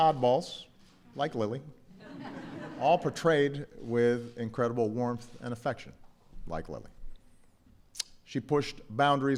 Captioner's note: laughter